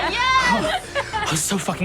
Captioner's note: all laugh